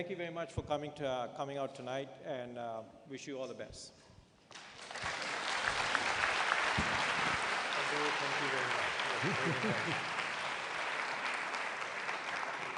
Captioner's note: applause